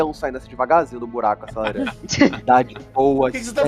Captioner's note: laughs